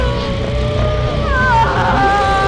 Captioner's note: yelling